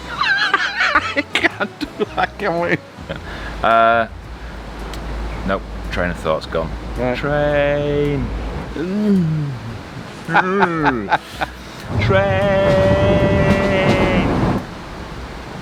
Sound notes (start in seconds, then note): 0.0 laughing; 7.1 train noises; 10.3 laughing; 11.1 train noises